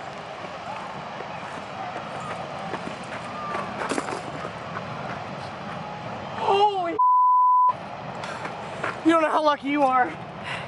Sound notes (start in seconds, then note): 2.8 sounds of someone running